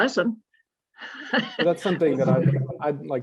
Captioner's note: laughter